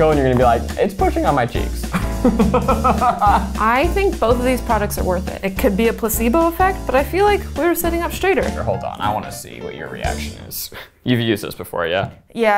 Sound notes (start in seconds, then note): 1.9 laughing